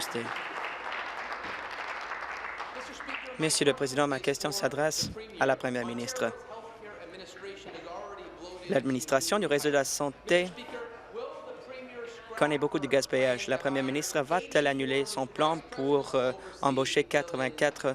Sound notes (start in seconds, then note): 3.3 applause